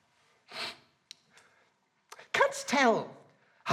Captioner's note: sniffs